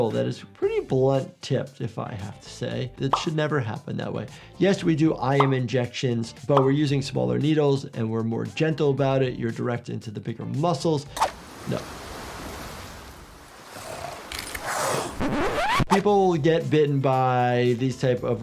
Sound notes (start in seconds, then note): 11.3 waves rustle; 13.6 crocodile hisses